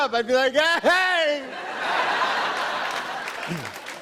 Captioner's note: laughter and applause